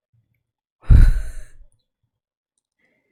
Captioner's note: exhales breath